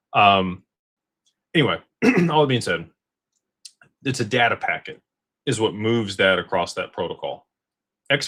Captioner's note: clears throat